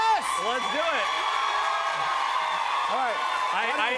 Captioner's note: cheers and applause